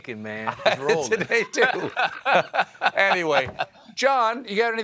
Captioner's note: laughter